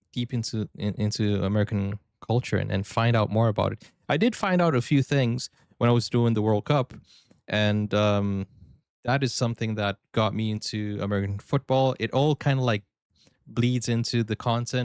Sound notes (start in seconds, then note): none